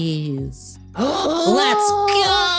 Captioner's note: gasping